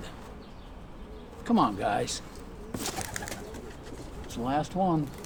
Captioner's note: birds chittering